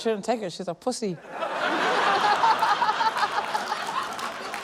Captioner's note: laughter; laughter, applause